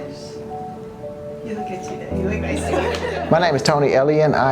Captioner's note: laughs